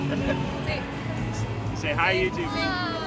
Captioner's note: laughing